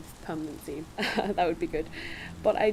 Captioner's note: laughs